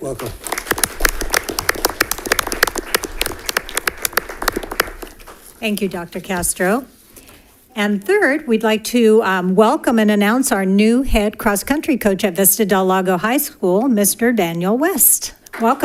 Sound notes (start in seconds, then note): 0.0 board members applaud